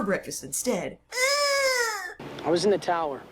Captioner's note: Allison whines as Eddie